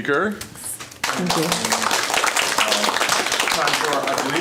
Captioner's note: applause